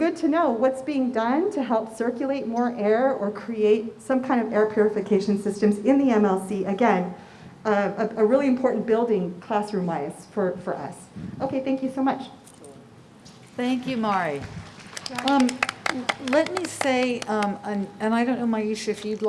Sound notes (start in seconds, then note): 14.5 applause